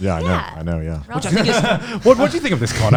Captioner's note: laughs